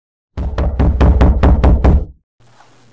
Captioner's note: heavy knocking